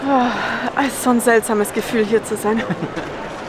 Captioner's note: laughs